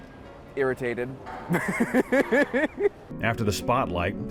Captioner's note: laughs